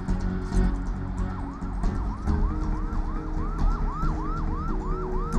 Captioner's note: distant sirens